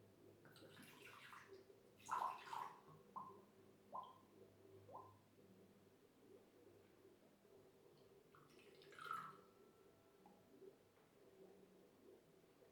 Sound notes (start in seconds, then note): 1.5 pouring water